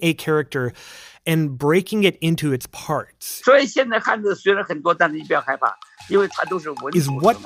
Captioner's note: speaking Mandarin